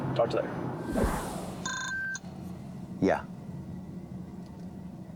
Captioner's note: ring tone